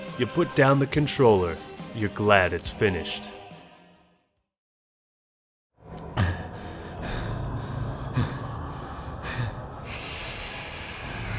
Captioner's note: heavy breathing